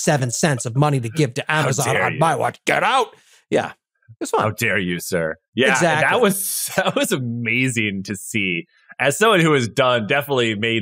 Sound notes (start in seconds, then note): 5.7 laugh